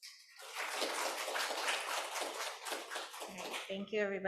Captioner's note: audience clapping